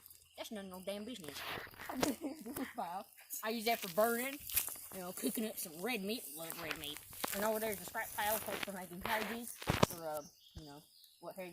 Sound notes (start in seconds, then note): 1.8 laughs